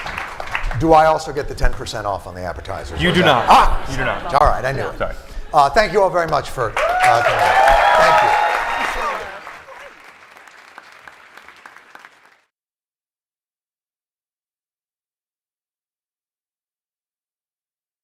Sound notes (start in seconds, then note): 8.9 cheering; 10.7 applause